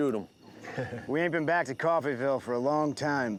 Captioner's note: chuckles